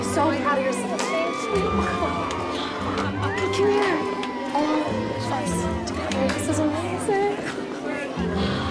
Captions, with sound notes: (indistinct congratulatory conversations, cheering) All of us together. This is amazing.